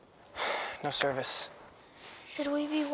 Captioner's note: sighs